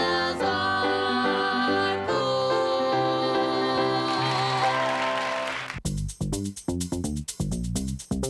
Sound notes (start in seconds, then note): 3.8 cheers and applause